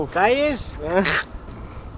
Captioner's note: eating sound